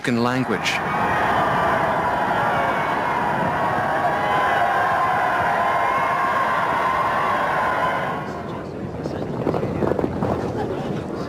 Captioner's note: applause